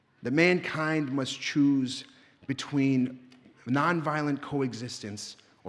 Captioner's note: none